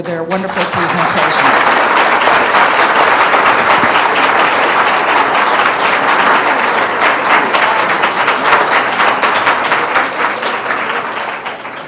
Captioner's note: applause